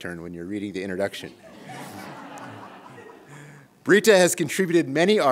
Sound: laughter

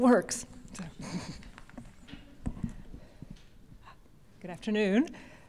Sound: laughter

